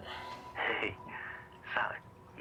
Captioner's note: chuckles